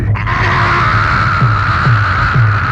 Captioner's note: screaming